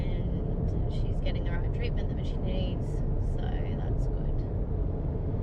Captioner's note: voice wavers